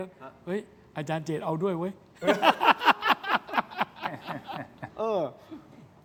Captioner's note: laughs